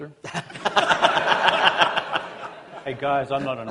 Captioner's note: laughter